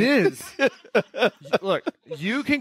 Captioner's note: laughing